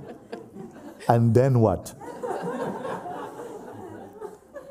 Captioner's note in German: Lachen; Lachen